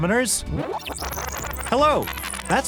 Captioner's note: rewind sound; fast forward sound